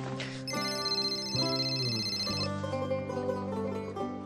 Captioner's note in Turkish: Telefon çalar